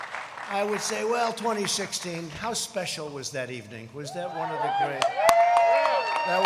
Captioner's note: applause